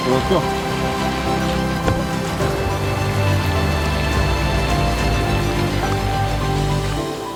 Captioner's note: dramatic instrumental music; rain pouring